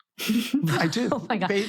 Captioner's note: laughs